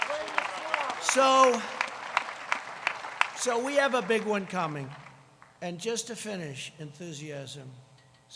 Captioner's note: applause